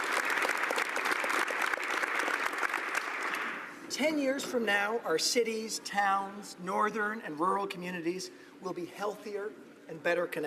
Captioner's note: applause